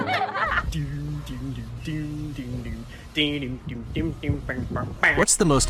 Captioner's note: children laughing; man humming tune in time with dog walking